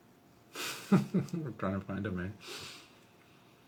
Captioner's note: laughing